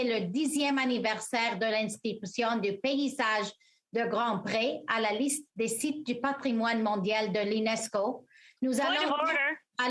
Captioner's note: speaking French